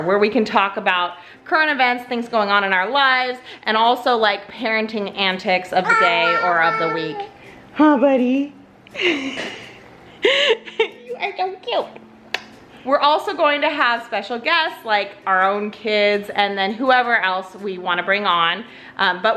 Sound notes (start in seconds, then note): 5.8 babbling; 10.2 laughs